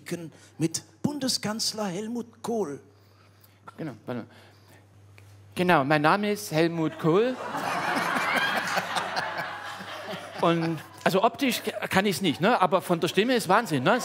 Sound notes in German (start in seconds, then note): 4.2 mit normaler Stimme; 9.9 Alle lachen